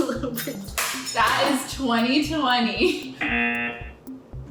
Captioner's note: buzzer